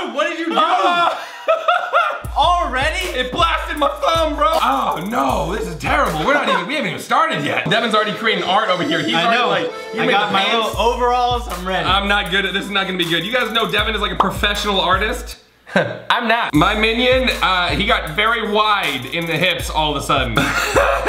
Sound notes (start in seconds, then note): 0.8 screams; 1.9 laughs; 20.3 laughing